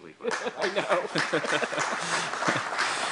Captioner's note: laughter